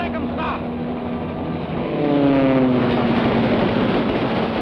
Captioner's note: airplane whirring